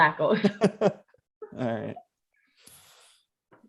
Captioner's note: laughs